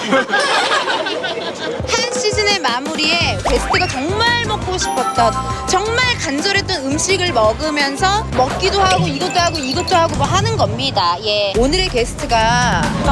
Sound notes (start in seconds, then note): 8.3 eating; 8.9 drinking